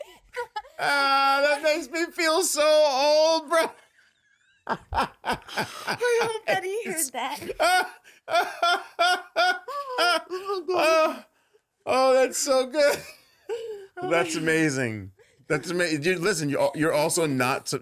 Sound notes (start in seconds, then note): 4.6 hearty laughing; 8.3 loud belly-laughing